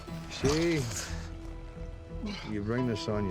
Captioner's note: scottish accent